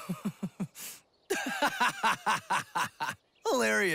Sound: laughing

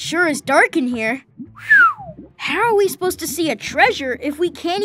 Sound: whistles

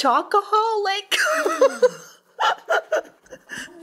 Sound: laughing

